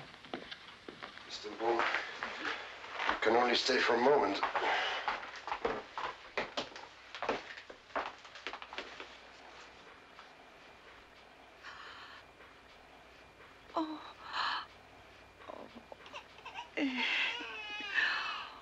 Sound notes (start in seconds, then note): 13.8 Corrie gasps; 18.3 baby cries